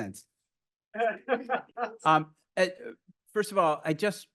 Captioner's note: laughs